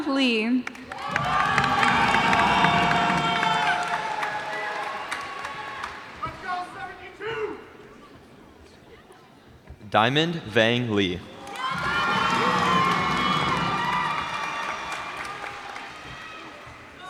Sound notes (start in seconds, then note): 0.6 cheers and applause; 11.3 cheers and applause